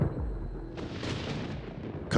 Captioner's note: thunder rumbles